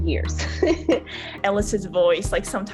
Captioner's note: laughs